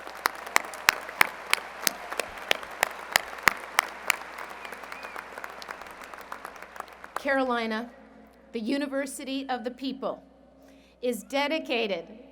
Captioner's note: applause